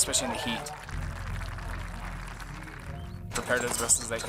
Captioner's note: audience applauds